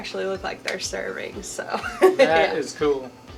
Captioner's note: laughs